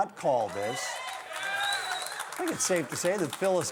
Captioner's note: crowd cheers